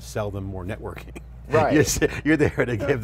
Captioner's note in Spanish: risas